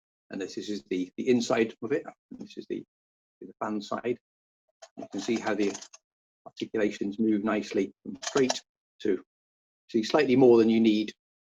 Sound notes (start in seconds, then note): 8.2 sounds of moving armour